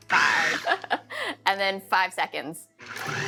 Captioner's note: laughs